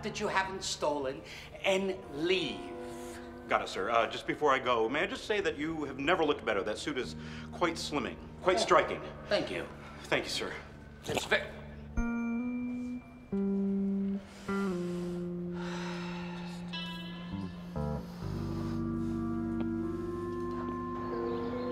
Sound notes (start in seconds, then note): 11.0 squishing; 14.3 deep sigh